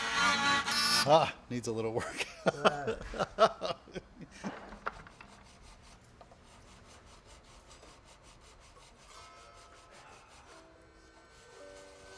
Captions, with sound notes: - Ah! Needs a little work (laughs). (instrumental music)